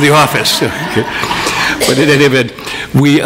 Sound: audience laughs

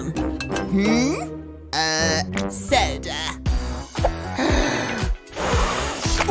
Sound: blows

